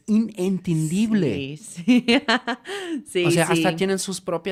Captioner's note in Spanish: risas